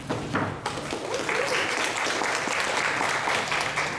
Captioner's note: applause